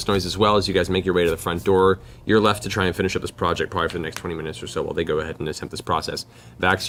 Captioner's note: none